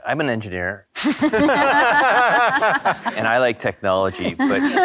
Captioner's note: panelists laughing